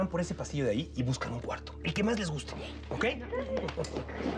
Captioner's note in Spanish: risas